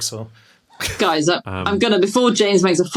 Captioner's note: snickers